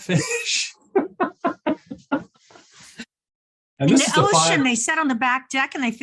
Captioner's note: laughs